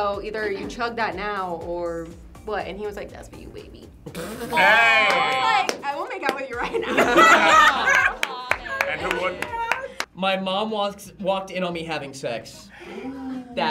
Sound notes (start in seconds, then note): 4.2 group laughs; 7.7 group laughs and claps